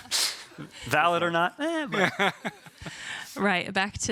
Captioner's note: laughing